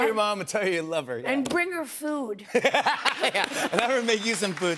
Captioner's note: laughs